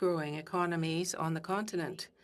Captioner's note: speaking French